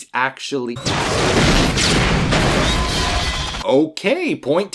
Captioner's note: chain of large explosions